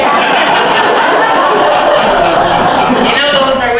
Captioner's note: laughter